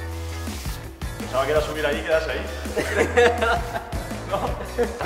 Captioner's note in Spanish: risas